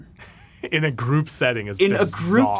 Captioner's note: laughs